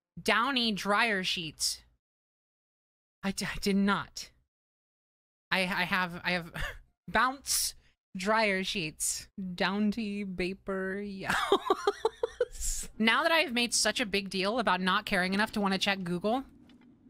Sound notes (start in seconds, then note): 3.1 exasperated; 11.4 laughing